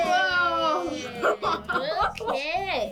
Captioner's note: laughs